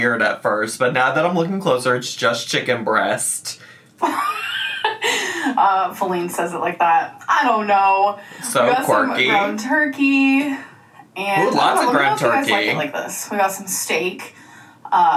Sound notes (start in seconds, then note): 4.0 laughs